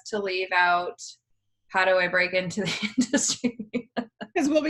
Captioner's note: laughs